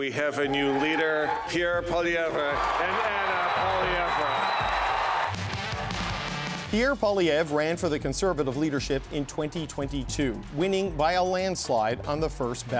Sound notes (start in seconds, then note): 6.9 cheering and Applause